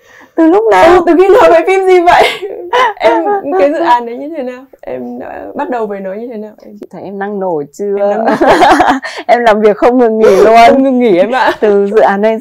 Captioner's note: laugh